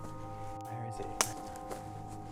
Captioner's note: branch snaps